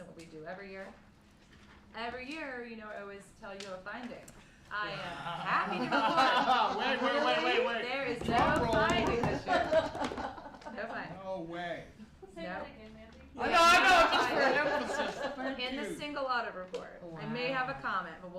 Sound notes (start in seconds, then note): 5.5 laughter